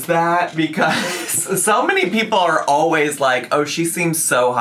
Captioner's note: laughing